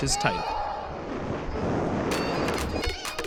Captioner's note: cheering